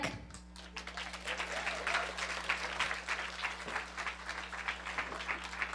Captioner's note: applause